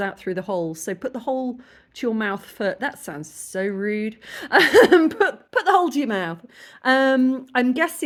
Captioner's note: laughing